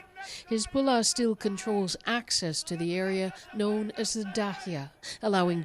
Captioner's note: speaking alternate language